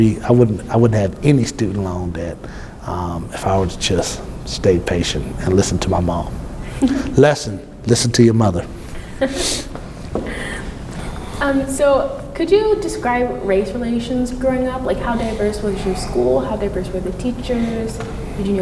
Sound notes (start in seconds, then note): 10.1 laughs